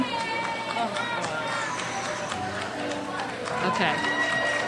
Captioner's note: crowd cheers